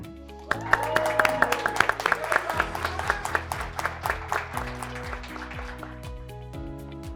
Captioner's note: graduates clapping; graduates cheering